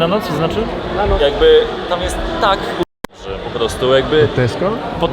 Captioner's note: crowd